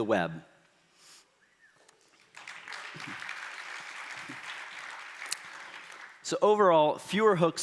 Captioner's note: applause